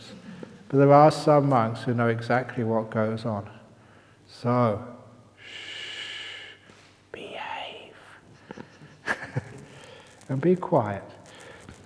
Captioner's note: whispering tone